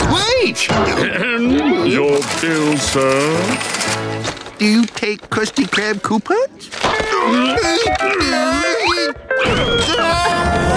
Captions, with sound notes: [chuckles] Wait! Ahem! Your bill, sir. Do you take Krusty Krab coupons? [grunting]